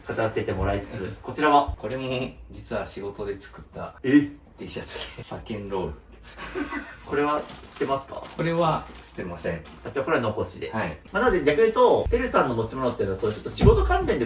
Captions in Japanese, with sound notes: これも実は仕事で作った え Tシャツで検ロール [笑い] これは知ってますか? これは知ってません。 あちこれは残しで まなので逆言うとセルさんの持ち物ってだとちょっと仕事関連で増えたものも多いっていうのが実情でありますね。ま、例えばよくなテレビマンの人とかも結構そういうスポンサーからもらったとかなんか仕事関係でもらったみたいの結構多かったりするのでま、結構それに近いのかな。